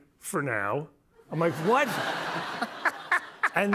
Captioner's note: laughter